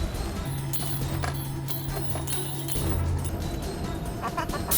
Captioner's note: clinking; laughing